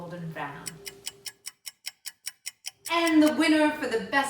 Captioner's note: clock ticking